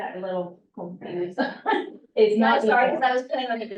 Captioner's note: laughs